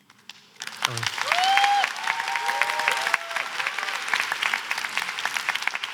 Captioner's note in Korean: 박수와 환호